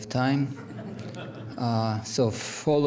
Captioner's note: audience laughs